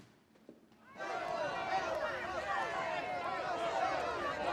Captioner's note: indistinct shouting